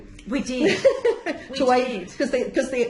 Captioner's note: laughs